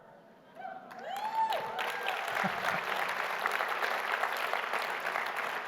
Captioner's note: audience cheering and applauding